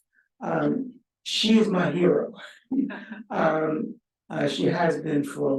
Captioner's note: audience member chuckle